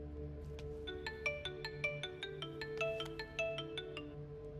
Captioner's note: phone rings- different tone